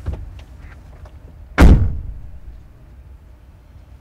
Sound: bus door slams

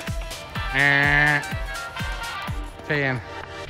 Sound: man makes buzzer sound

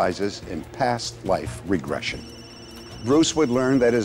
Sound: phones ringing

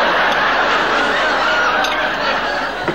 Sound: audience laughing

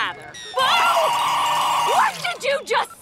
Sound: screaming

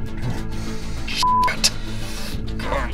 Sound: beep; grunts

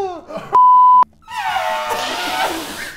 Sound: laughing; beep; elephant noise; laughing

